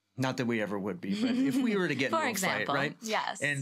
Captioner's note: laughs